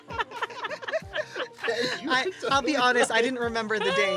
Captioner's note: laughter